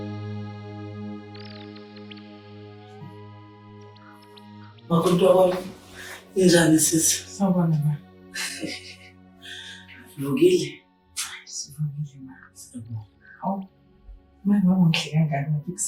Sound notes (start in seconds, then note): 8.4 laughing